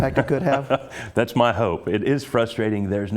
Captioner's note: laugh